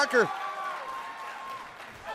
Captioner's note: cheers & applause